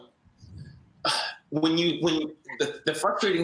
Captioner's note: sighs